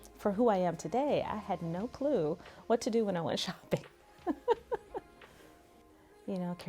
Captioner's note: laughs